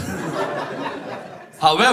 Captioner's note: audience laughs